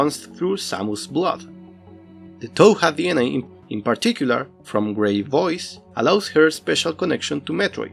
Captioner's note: from gray voice